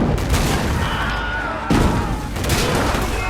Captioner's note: men screaming